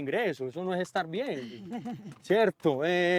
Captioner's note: laughs